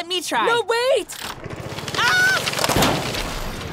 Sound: cranking; crash

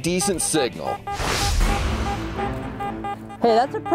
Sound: beeping

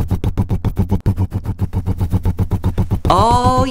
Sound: rumbling

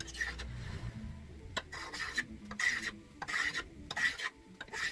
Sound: scraping

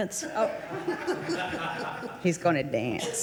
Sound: laughing

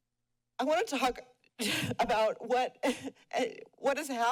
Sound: sighs; sobs

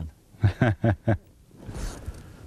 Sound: laughter

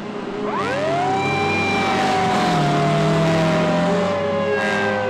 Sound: police siren blaring

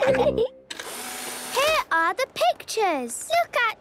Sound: whirring

